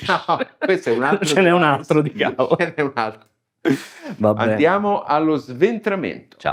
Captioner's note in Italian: risate